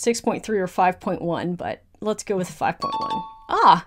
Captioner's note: question dings